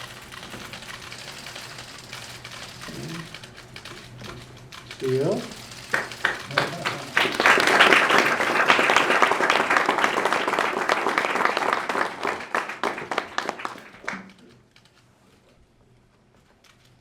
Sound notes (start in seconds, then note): 5.6 applause